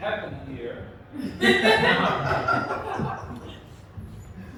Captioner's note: laughter